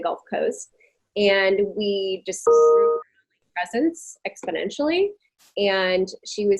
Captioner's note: audio distorting